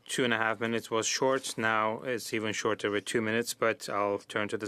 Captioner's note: speaking French